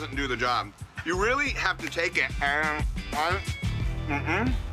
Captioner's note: babbling